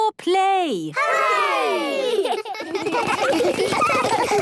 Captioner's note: laughter